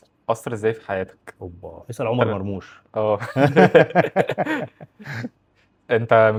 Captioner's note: laughs